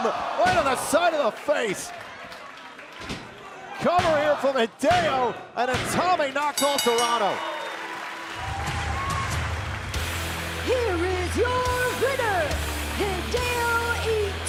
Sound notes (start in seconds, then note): 6.5 bell ringing